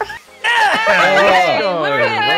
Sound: laughter; cheering

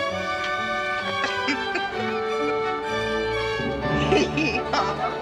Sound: Nancy laughing

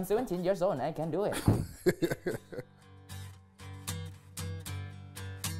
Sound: chuckling

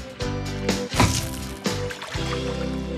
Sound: thud!

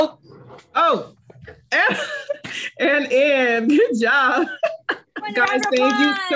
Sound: laughs

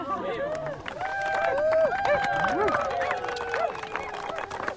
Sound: clapping & cheering

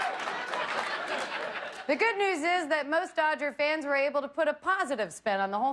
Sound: laughter

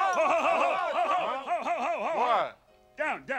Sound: Muppets exclaiming

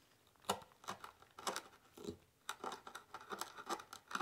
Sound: chisel scraping

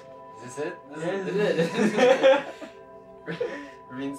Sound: laughs

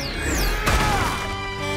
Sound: grunting; honking

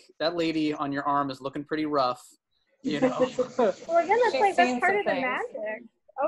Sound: laughter

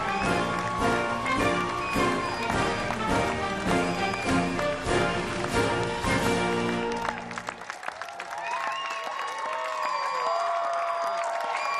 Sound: applause

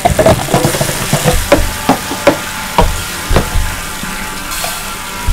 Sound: cups bang against the ground; water spills; heavy water flow

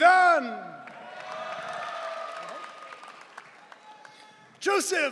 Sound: audience cheering

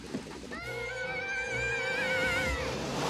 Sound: screaming

